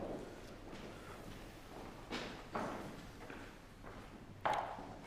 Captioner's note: footsteps thumping